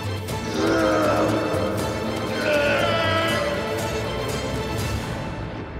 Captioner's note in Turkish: Bağırma sesi